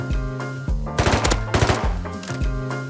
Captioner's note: thwup thup